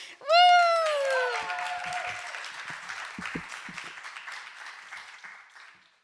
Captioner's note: audience cheering and applauding